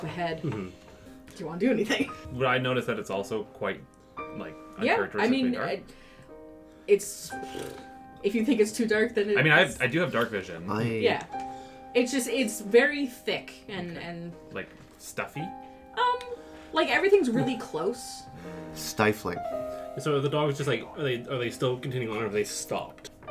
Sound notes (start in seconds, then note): 0.4 stifling a laugh; 7.4 sighs an exasperated raspberry